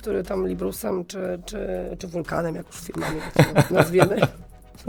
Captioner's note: śmiech